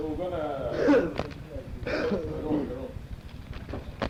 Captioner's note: coughing